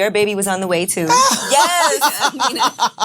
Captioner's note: laughs